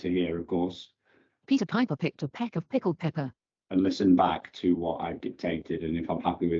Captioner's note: computer speaks